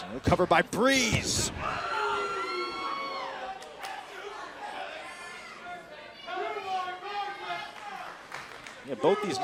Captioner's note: crowd chatter